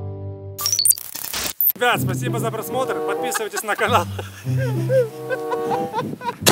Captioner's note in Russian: смех